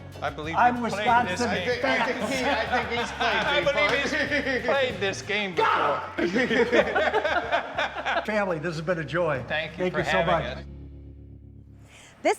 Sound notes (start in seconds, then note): 1.5 both laughing; 6.1 both laughing